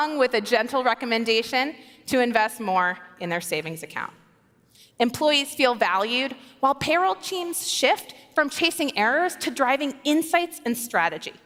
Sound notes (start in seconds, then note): none